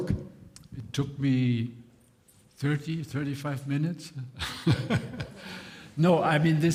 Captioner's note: laughs